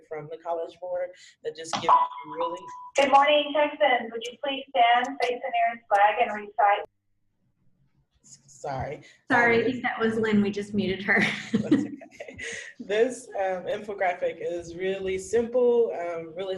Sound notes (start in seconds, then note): 11.2 laughs